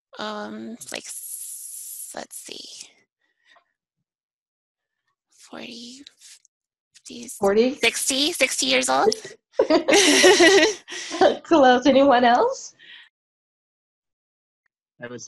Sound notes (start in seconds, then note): 6.3 chuckling